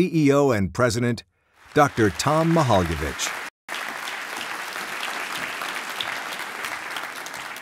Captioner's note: applause